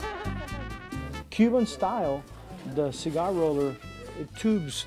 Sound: laughing

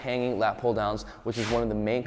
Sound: air whooshing

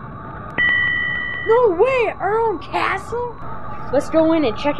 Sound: ding

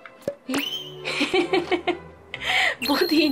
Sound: laughs

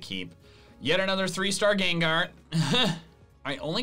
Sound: laughs

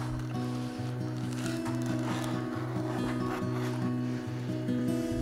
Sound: bark scraping; relaxing guitar music

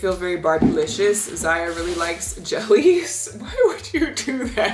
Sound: laughing

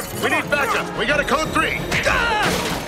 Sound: yelling; clattering

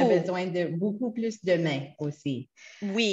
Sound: French

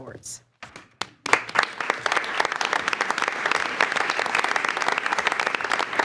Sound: attendees applauding

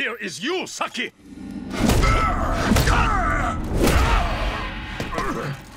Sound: grunting

